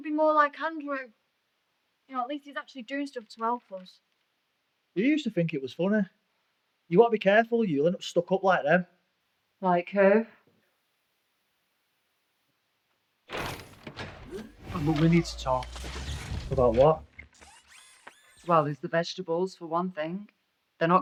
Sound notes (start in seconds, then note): 13.3 Kellogg clattering and whirring; 17.8 Kellogg whirring